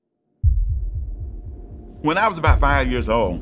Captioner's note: heartbeat thudding